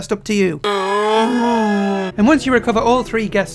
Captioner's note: slowed down moaning